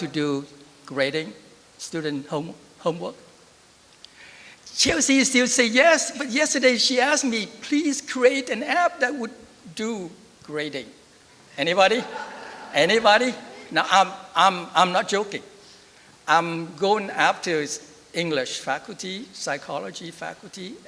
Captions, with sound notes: to do grading student homework? Chelsea still say yes. But yesterday she asked me, please create an app that would do grading. Anybody? [LAUGHTER] Anybody? No, I'm not joking. I'm going up to English faculty, psychology faculty,